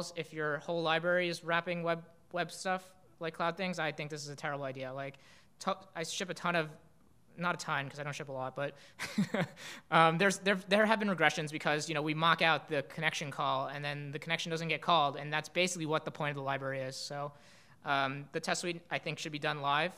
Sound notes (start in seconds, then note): 8.5 laughing